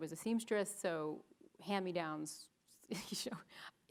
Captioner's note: giggles